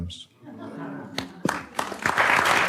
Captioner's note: light laughter; audience applauds